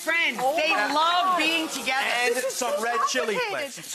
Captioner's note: audience goes whoa